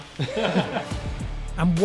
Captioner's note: laughing